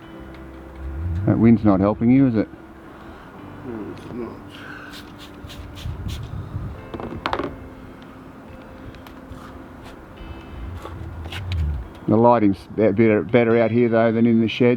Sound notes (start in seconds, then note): 4.9 spraying noise